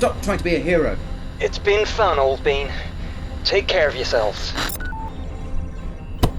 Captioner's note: comms channel closes